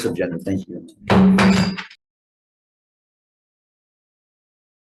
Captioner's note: gavel bangs